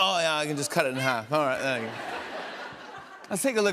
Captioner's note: laughter